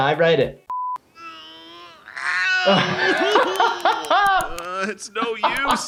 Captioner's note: person groaning; laughing